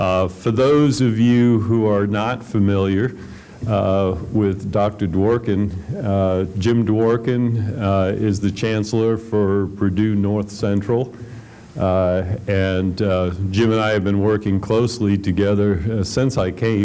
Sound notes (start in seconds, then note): none